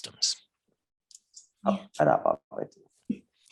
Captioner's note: speaking burmese